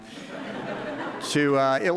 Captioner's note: audience laughing